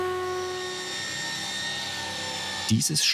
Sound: shrill sawing noise

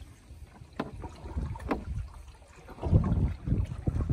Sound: water splashing

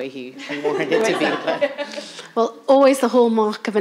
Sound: laughing

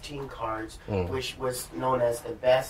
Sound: sounds of agreement

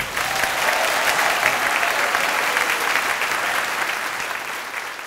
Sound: drums end suddenly and audience cheers fade out slowly

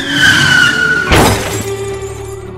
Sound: crash

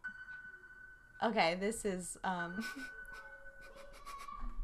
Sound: laughs

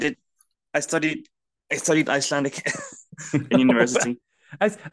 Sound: chuckles

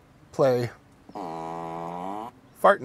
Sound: fart sound

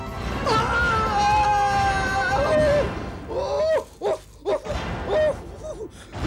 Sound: groans

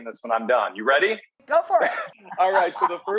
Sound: laughing

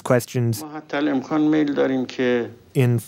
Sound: Speaking Farsi

